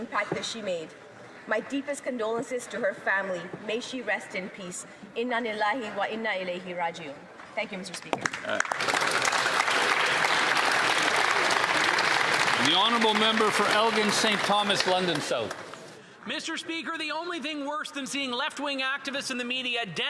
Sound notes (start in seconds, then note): 12.4 speaking Alternate Language; 15.7 applause